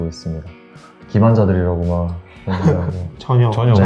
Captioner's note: laugh